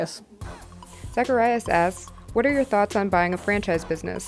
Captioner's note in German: Voice-over